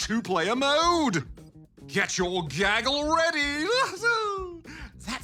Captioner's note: laughs